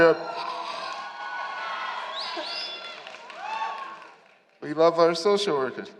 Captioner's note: applause and Shouting